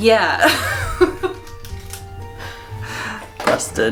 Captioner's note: laughter